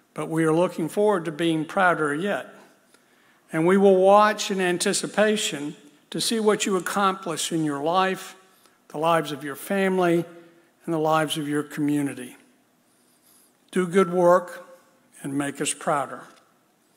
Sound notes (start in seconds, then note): none